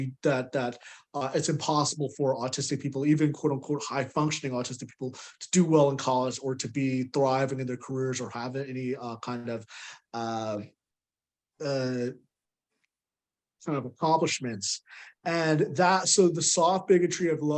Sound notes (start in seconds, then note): none